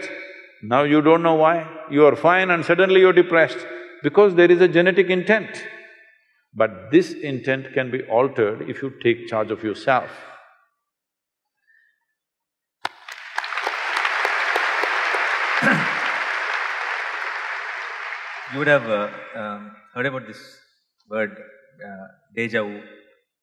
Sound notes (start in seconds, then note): 12.8 applause